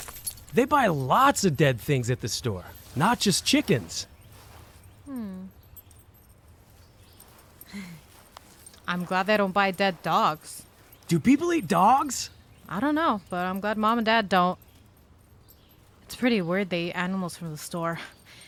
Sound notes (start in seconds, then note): 0.0 dog tags jingling; 0.0 rapid flapping; 7.7 chuckles